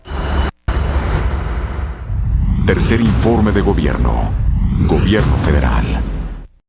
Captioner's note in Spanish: Voz en off